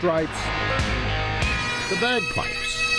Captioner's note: plane engine roars